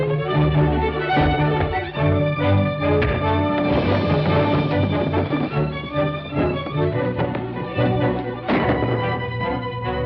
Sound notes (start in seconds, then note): 2.5 punch thuds; 8.4 gunshot